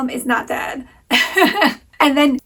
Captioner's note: laughing